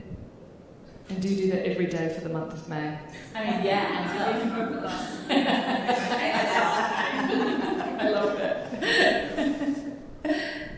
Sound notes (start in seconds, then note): 5.0 all laughing; 9.6 laughing